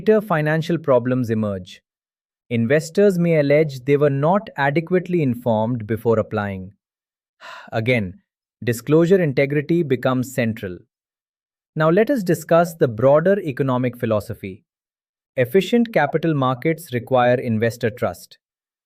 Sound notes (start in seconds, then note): 7.4 sighs